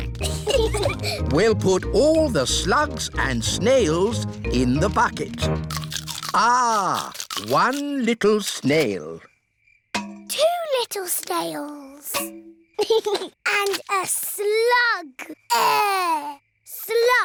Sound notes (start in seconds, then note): 0.0 peppa and george giggling; 12.8 george giggles